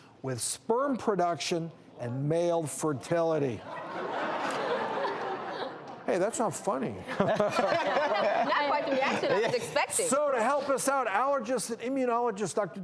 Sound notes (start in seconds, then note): 3.6 audience laughs; 7.1 laughing